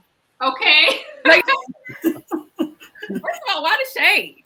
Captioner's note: all laugh